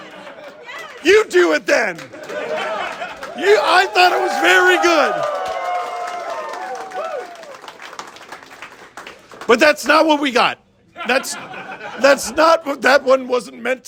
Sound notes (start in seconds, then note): 5.3 crowd cheers lightly; 10.9 crowd laughs